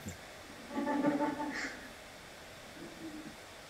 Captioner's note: laughter